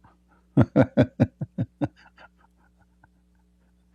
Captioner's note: Ketawa